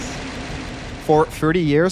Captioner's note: machine rattles